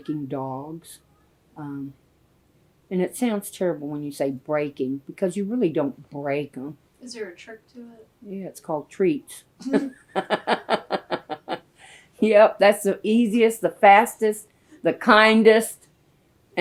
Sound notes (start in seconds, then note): 9.6 laughter